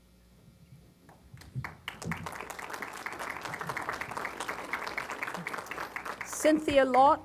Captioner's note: applause